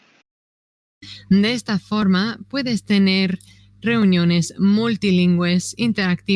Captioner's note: speaking in foreign language